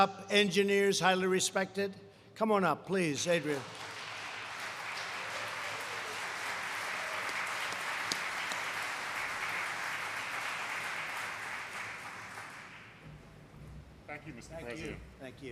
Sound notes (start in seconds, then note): 3.1 applause